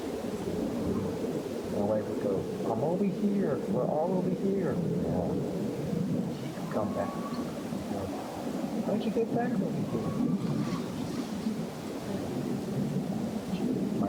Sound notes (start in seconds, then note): 6.6 distant bird-like whistle; 9.8 distant bird-like whistle